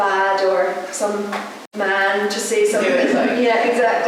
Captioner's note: laughter